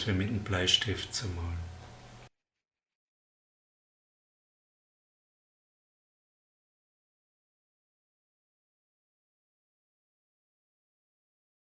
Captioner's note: pause